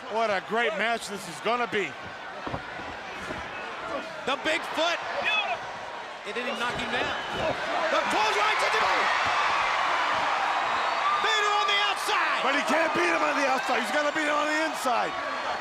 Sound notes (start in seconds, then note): 0.0 crowd chatter; 8.8 crowd cheering; 15.3 crowd chatter